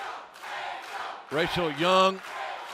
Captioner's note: fans chanting